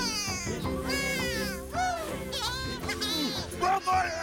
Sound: laughing

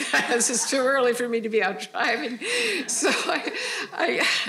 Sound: all laughing

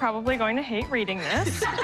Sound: laughter

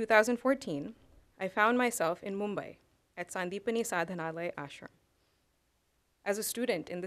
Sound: non-english

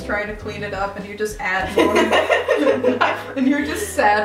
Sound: laughing

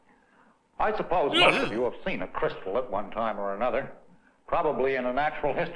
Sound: angry-sounding delivery

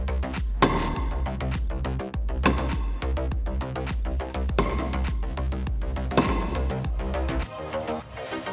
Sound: metal striking metal

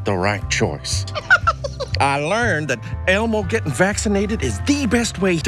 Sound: laugh

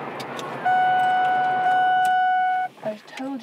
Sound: warning bell ringing

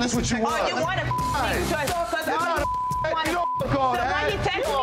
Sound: beep

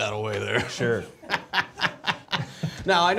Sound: laughing

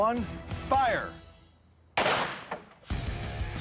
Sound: gunshot

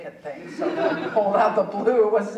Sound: audience chuckling

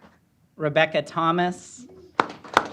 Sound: applause

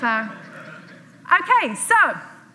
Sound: audience laughs

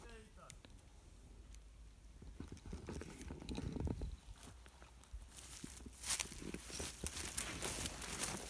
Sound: people walk

